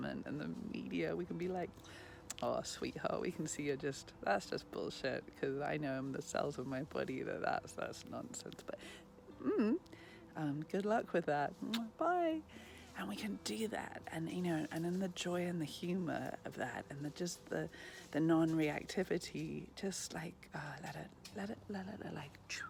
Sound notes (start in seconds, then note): 11.6 lips smacking